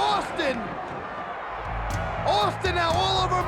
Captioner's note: audience cheers